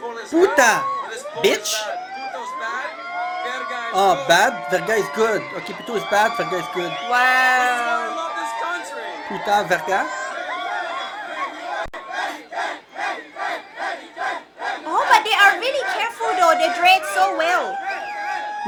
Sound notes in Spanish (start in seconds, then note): 7.6 Aplausos